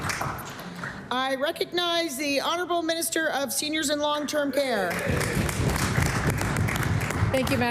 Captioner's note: applause